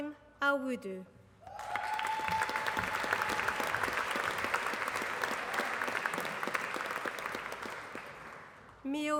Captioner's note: applause